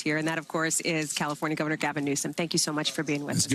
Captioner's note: applause